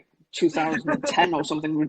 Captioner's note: laughs